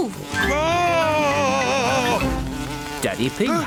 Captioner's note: screams